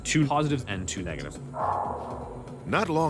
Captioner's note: ominous whooshing